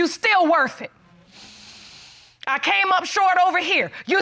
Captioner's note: breathes deeply